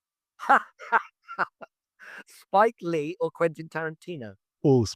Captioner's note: laughs